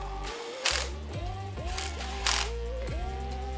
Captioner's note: machine whirring